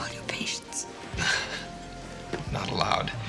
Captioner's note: chuckles